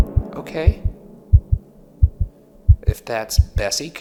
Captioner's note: heart beating